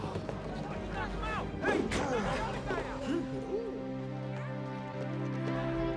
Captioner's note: grunts